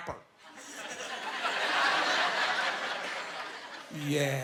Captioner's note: laughing